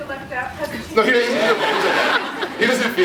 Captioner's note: laughs